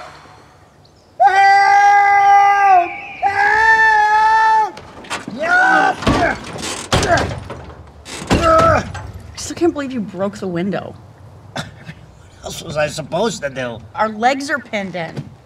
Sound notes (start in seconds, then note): 4.7 screams